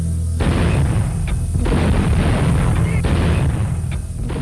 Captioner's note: artillery firing